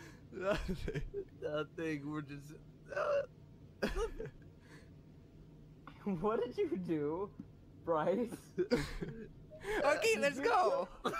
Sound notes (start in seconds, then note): 0.4 laughs; 3.8 laughs; 8.6 wheezes; 10.8 all three laughing